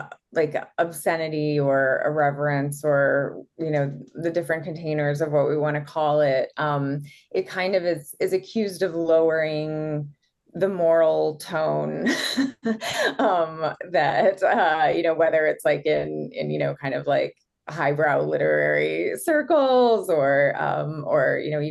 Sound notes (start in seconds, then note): 11.4 chuckles